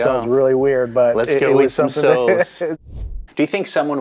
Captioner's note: both men laugh